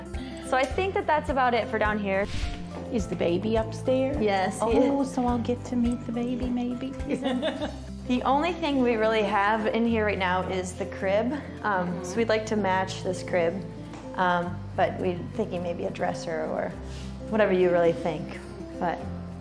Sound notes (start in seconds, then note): 7.2 laughs